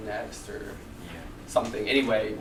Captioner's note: voiceover